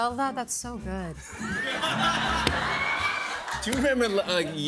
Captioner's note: laughter